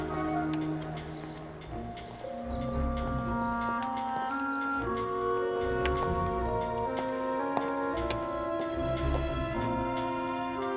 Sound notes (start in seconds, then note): none